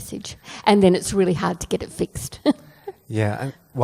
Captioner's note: laughs